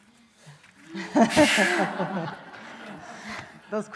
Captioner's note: laughing